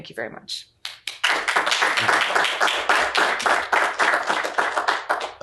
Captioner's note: applause